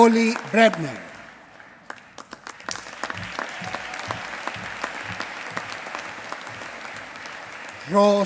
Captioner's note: applause